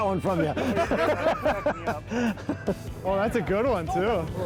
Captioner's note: laughs